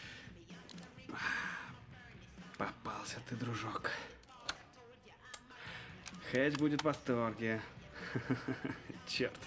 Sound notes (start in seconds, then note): 1.1 sighs